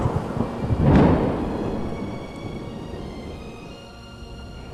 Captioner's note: lightning striking